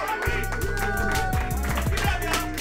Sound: feedback whines; applause

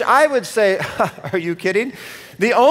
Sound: chuckles

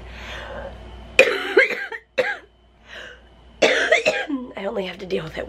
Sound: coughs

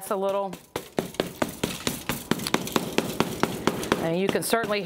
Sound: hammer knocking

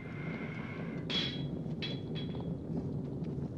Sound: banging

